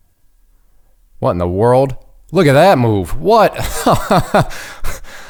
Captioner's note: laughing